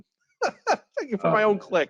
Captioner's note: laughs